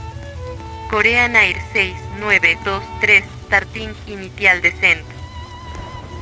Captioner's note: Spanish